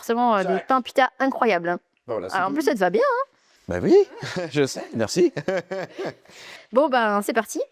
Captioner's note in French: rires